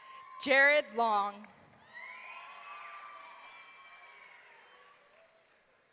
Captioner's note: audience cheering